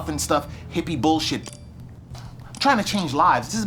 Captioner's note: phone beeping